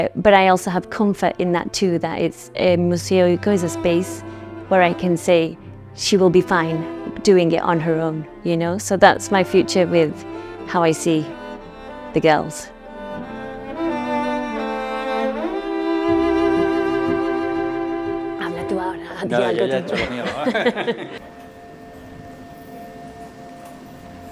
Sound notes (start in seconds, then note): 19.1 laughs; 21.2 music and background street noise